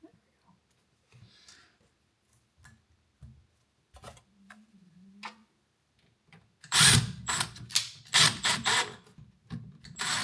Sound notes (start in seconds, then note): 6.9 drill whirring